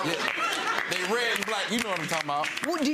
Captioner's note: audience laughing and clapping